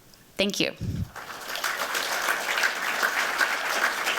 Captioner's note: applause